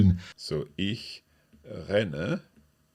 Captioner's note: speaks in foreign language